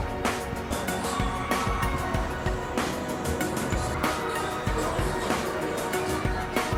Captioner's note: guests screaming in excitement